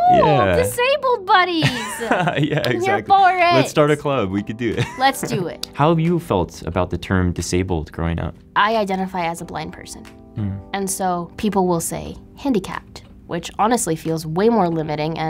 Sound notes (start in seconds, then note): 1.6 laughs